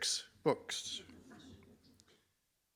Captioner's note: laughter